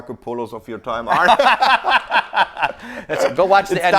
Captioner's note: laughing